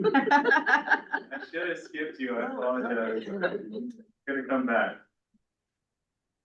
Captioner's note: laughs